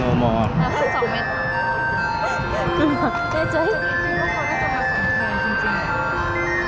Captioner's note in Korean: 익숙한 벨소리♫